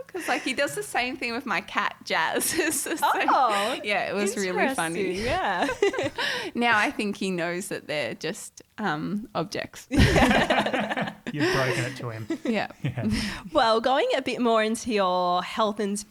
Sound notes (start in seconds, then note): 2.5 giggling; 9.9 all laughing